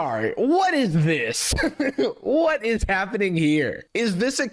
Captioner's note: laughs